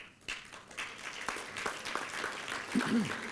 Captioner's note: applause